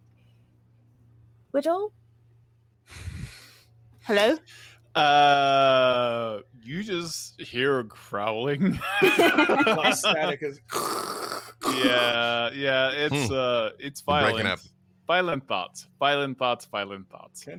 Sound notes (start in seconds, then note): 8.6 people laughing; 9.1 people growling